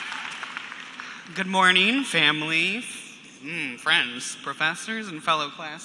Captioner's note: cheers and applause